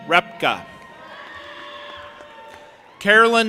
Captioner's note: audience applauding and cheering